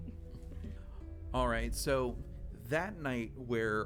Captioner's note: laughs